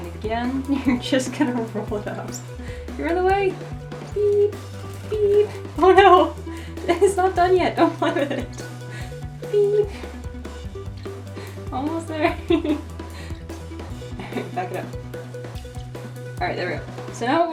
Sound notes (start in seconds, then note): 6.9 laughs